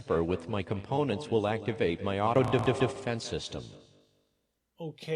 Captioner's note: glitching